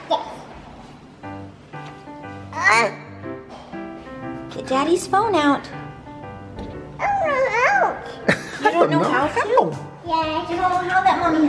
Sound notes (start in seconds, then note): 1.4 playful music; 2.8 grunts